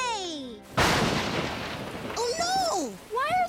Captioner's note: lightning strikes